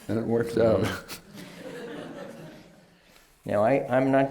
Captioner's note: laughter